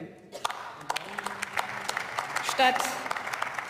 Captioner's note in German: Beifall